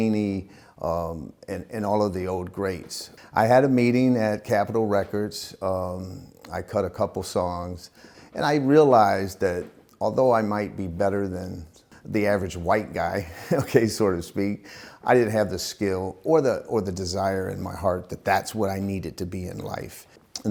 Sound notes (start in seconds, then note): 13.3 laughs